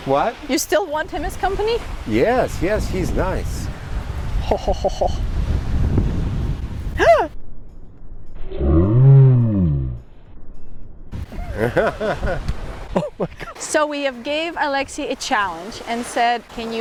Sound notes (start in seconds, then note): 6.9 gasps; 11.3 laughs